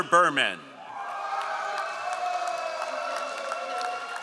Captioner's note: all applauding